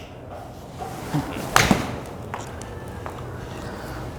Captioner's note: ball smacking